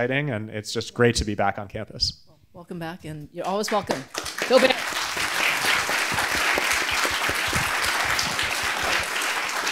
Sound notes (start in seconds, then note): 5.4 audience clapping